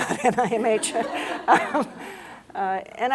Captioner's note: laughter